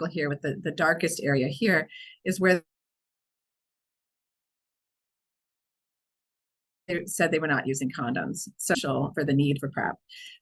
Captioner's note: audio cuts out